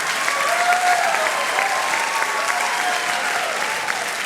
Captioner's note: cheering